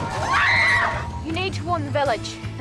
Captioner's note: Cass screaming